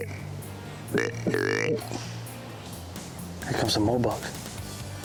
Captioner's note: animal calling